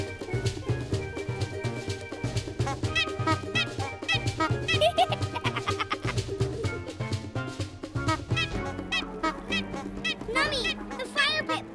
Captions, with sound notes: [honk-honk-honk] [laughs] [honk-honk-honk] Nummy! The fire pit!